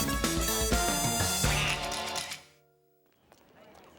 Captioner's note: duck quacks